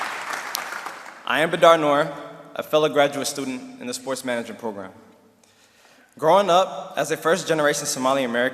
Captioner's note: applause and cheering